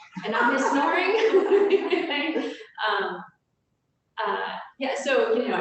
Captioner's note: laughter